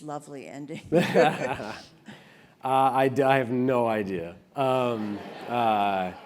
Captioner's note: laugh; laugh